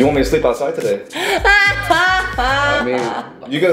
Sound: laughing

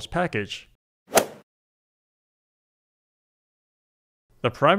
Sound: golf swing sound effect

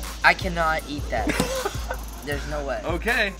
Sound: laughing

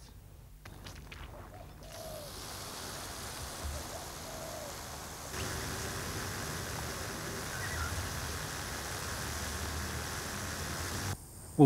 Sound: sprinklers watering the lawn

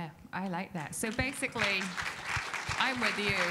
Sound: audience applauding

